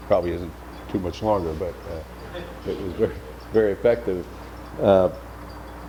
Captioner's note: laughs